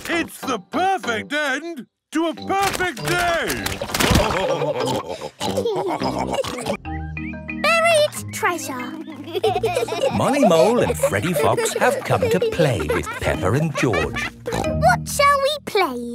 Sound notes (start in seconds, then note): 8.7 laughing